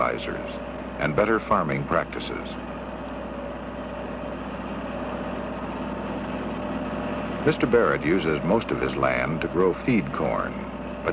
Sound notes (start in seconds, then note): 3.1 whirring